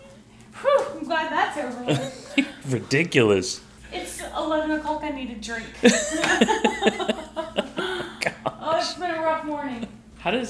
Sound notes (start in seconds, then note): 5.8 both laughing